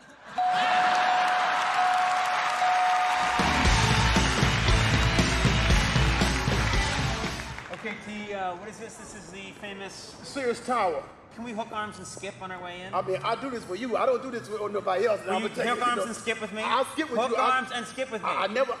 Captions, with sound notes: (dinging) (rock music) Okay T, what is this? This is the famous. Sears Tower. Can we hook arms and skip on our way in? I'll do this for you I don't do this for nobody else. I'm going to tell you. Hook arms and skip with me? Hook arms and skip with me?